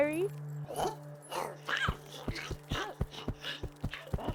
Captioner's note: Giree grumbling